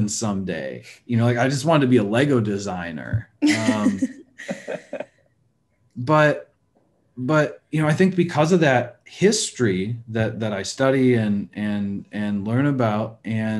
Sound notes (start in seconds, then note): 3.5 laughing